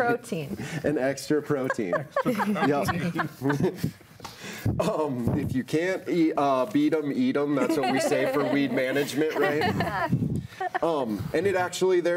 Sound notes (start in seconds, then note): 4.3 laughs